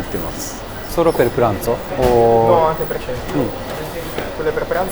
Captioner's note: Italian